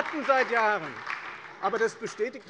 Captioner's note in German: Beifall bei der FDP